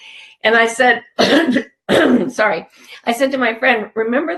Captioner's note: coughs